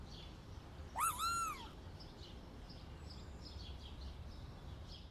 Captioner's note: birds chirping; bug squeaks